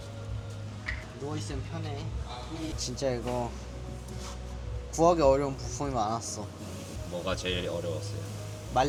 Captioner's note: none